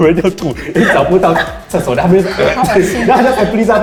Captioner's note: vomitted